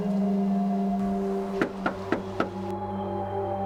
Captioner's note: knocking